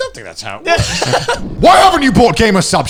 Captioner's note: laughing